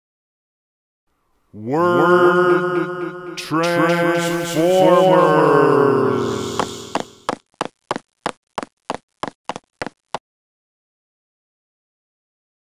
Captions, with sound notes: Narrator> Word Transformers [ footsteps ]